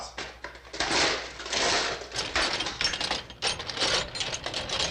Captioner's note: metal clattering